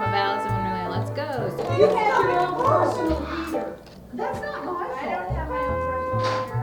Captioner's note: indistinct chatter